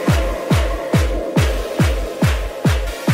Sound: clapping

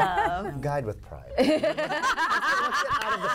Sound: laughter

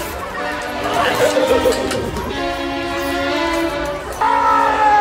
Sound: rhinorrhea laughing

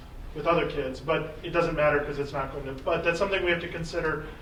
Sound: faintly speaking

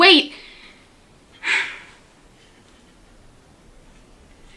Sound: Samantha sighs

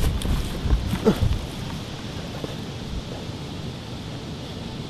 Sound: Allan groans

